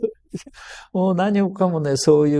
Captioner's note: laughs